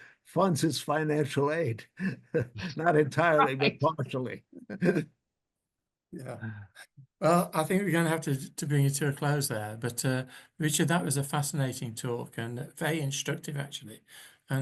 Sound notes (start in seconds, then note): 1.8 chuckles; 6.1 chuckles